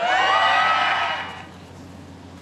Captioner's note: cheering and applause